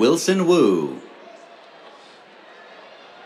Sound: cheers

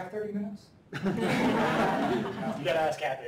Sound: laughter

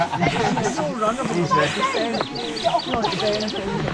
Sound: chatter

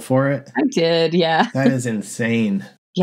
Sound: laughter

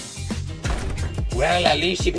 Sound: door closes

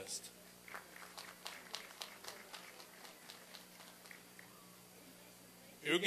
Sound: applause and cheering

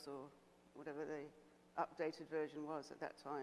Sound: none

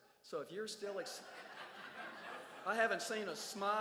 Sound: crowd laughs

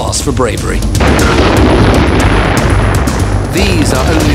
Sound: dramatic music; explosion booms

